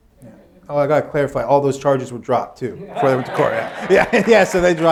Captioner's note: laughter